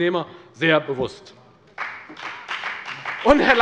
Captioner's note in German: Beifall bei der FDP